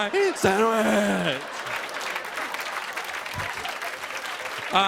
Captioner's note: laughter and applause